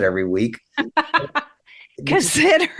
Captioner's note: laughing